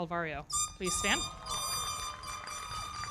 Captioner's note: foghorn blowing; audience cheering; everybody clapping